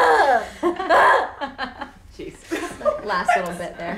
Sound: woman screaming; girls laughing

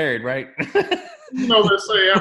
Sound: laughs

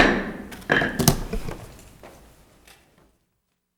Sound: gavel slams

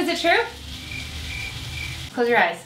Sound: crickets chirp

